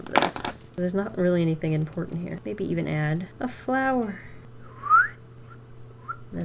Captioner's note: whistles